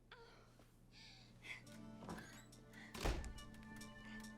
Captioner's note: woman whimpers